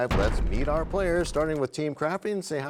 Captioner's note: crashing sound